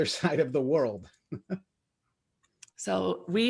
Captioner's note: laughs